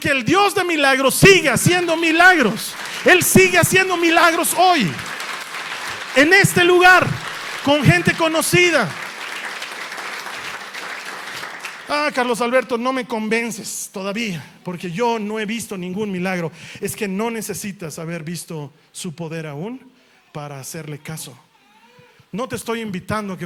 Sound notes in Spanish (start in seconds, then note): 9.3 aplausos